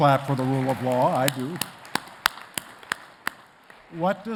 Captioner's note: claps; attendees clapping